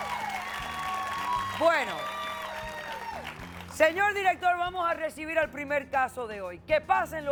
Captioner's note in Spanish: Aplausos